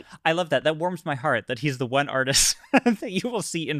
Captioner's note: laughs